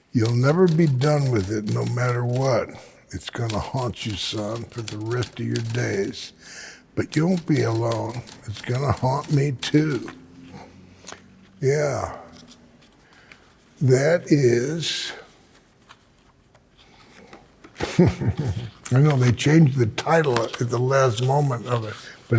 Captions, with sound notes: "You'll never be done with it no matter what. It's going to haunt you, son, for the rest of your days. But you won't be alone. It's going to haunt me too." Yeah. That is. [chuckles] I know they changed the title at the last moment of it,